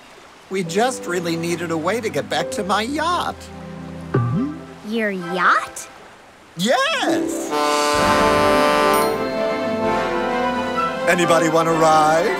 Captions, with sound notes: We just really needed a way to get back to my yacht. Your yacht? Yes! [horn blowing] Anybody want to ride?